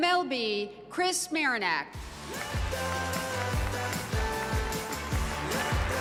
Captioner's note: cheers and applause